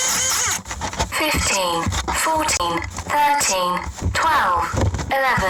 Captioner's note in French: la pompe grince; Voix robotique